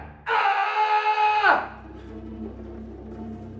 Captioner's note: CJ screams; ominous music